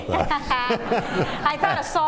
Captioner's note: laughter